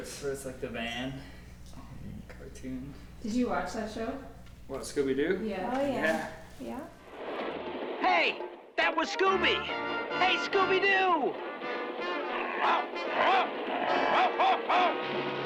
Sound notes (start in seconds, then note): 12.3 Scooby barks